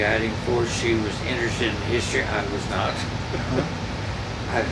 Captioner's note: laughs